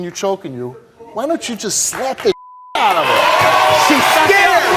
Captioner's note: beep